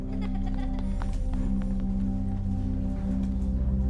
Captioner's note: children laughing